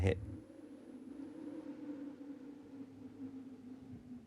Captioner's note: wind howling